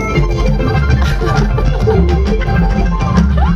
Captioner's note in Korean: 흥미진진한 음악; 웃음